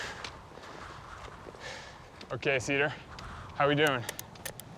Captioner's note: heavy breathing